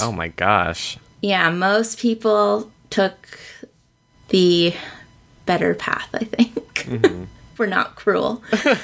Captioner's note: laughs